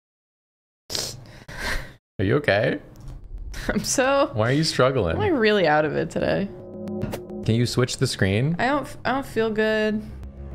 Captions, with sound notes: [sniffle] Are you okay? I'm so… Why are you struggling? I'm really out of it today. Can you switch the screen? I d-don't feel good.